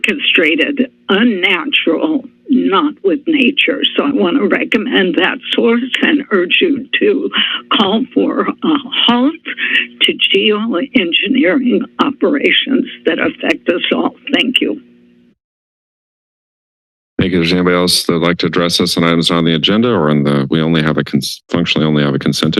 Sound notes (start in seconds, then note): 15.2 silence